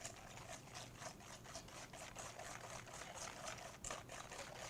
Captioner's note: whisk scraping pan